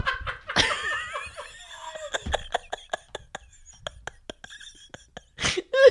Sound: laughter

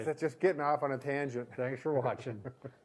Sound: laughs

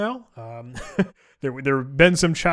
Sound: chuckling

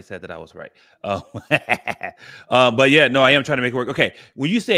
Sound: laughs

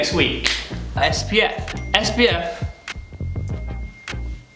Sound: phone beeps

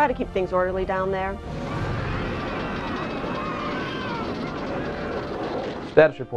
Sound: shouting and screaming

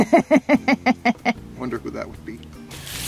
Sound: laughing

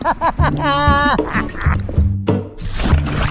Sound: chortles; carefree music

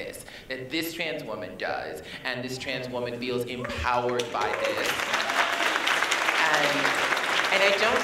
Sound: applause

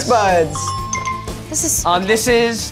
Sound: app chimes

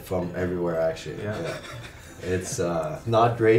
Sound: laughs

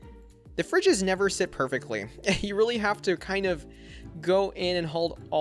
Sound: chuckles

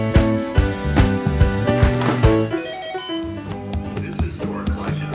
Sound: TV turns on

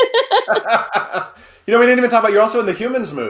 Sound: laughing

